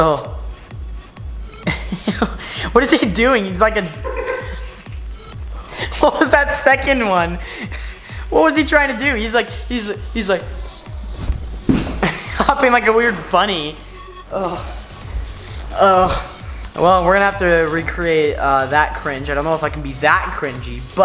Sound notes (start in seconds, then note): 0.0 upbeat music playing; 1.6 laughing